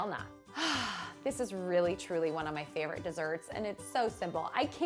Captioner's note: sighing